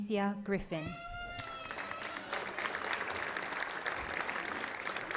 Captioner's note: audience applauding